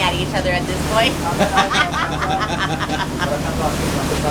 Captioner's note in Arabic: ضحك